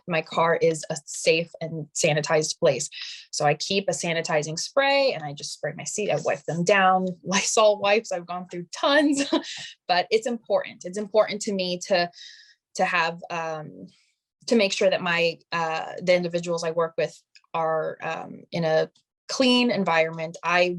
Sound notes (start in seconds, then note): 9.1 chuckling